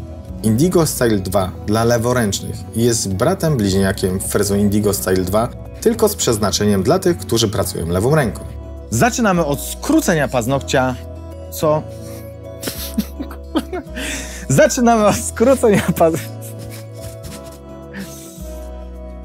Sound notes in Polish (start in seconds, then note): 12.6 śmiech